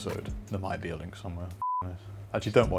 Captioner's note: beep